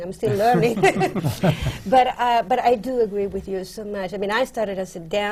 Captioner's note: laughs